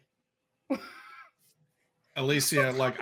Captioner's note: laughing